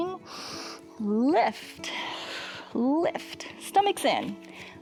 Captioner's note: inhales